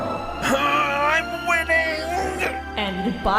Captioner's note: strained